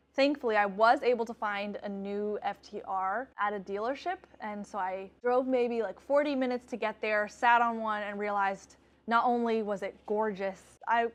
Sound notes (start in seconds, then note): none